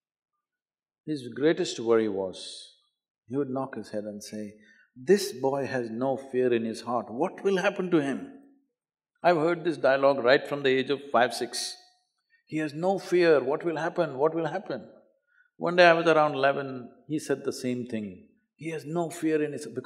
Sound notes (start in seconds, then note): none